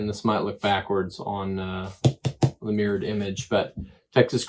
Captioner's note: smacks